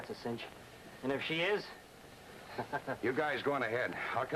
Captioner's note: chuckles